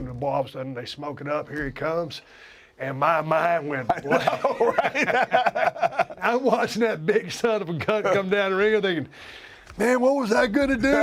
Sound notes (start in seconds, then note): 3.8 laugh